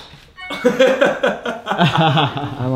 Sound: laughs

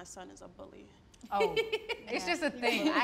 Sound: laughing

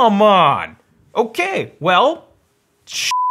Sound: beep

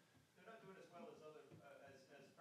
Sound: male Voice

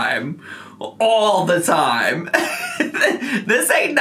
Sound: laughs

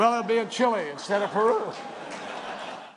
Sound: laughter

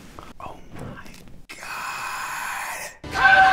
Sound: whispers

